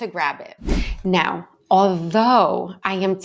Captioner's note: screen whooshes